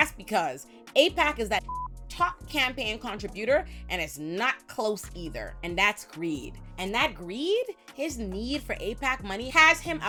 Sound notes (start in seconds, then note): 1.6 beep